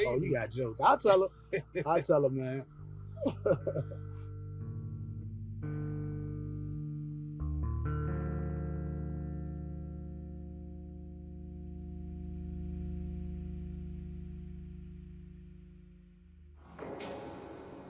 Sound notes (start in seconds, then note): 3.1 laughing; 5.7 peaceful music